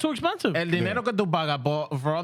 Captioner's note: speaking In Foreign Language